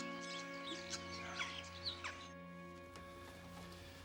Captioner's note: birds chirping